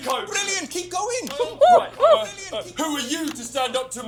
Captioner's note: exclaims